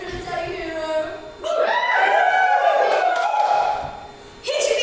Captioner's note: audience cheers